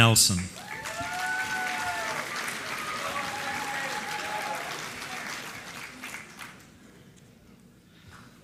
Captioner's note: applause